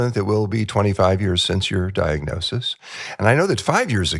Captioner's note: laughs